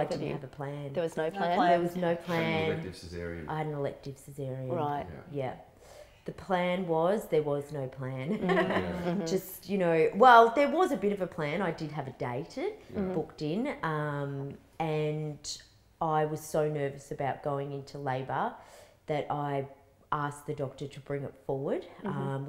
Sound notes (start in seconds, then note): 8.3 laughs